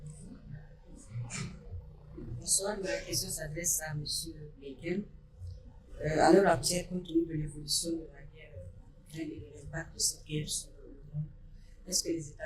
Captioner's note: in French